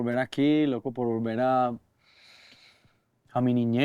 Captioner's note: inhales